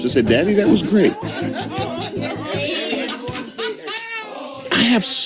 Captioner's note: family laughing